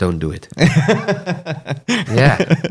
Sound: laughter

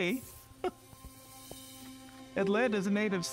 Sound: chuckles

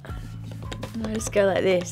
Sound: tapping on chair

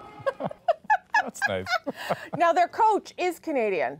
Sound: laughter

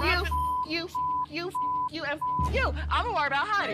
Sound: beep

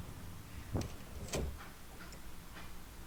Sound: sound of the front door closing

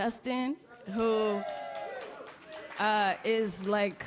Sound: applause

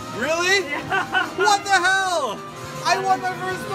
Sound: laughs

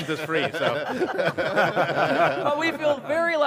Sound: everyone laughing

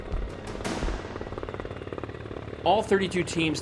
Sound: helicopter whirring

